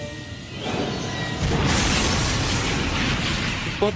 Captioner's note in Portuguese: Trem descarrilhando